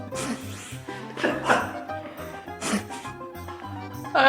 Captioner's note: chuckling